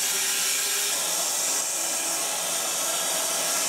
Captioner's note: saw whirring